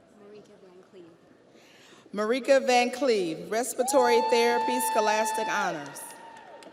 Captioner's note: audience applauds; audience cheers